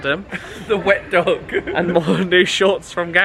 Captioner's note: laughs